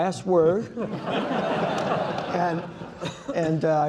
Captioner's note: laughter